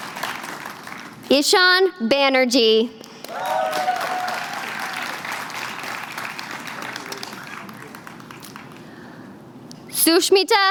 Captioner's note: applause